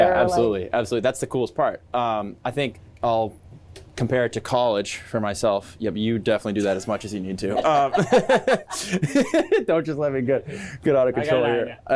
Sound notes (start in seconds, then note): 6.6 laughing